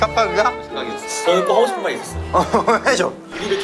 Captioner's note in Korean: 울먹